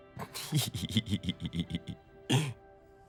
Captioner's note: giggling